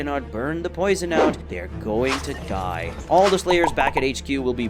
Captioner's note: normal tone